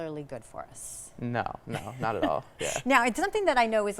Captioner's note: laughing